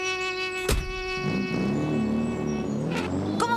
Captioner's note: sound of car starting